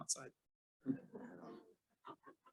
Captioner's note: laughter